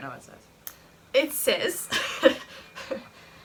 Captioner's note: laughs